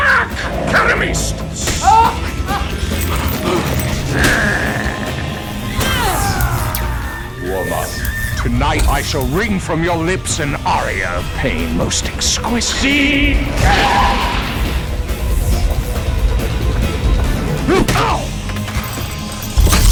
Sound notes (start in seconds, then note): 0.0 speaking foreign language; 3.5 growling; 12.3 speaking foreign language; 13.9 electricity crackling; 17.2 grunting